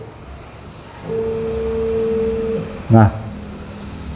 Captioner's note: printer machine noise